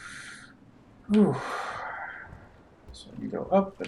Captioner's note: sighing